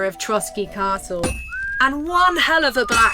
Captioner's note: out of tune whistling